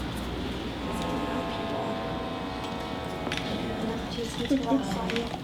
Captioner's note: machine whirring